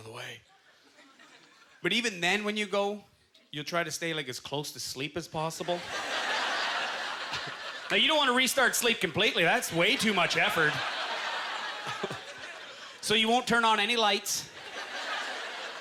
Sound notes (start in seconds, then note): 5.6 audience laughter; 10.4 laughs